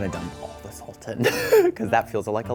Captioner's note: wheezes nervously